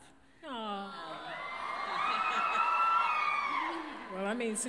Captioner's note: crowd cheers